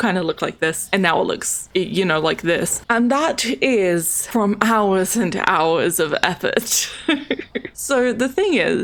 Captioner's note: laughs